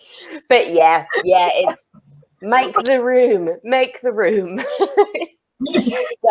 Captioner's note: laughs